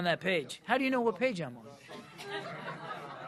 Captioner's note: laughter